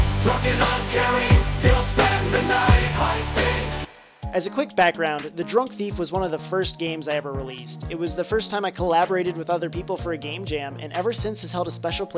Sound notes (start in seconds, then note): none